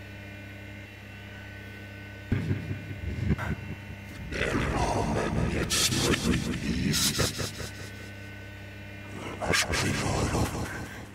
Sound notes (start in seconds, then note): 2.5 distorted voice in foreign language